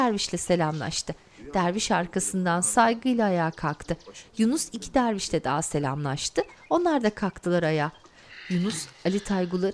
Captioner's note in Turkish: Kuş cıvıltısı sesi